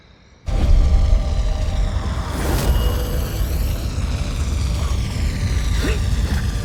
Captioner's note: helicopter whirring